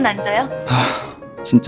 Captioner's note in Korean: 하아